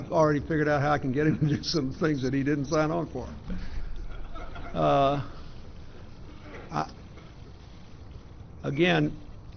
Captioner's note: laughter